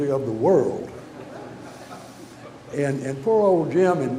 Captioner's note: audience laughter